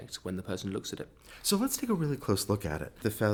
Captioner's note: voiceover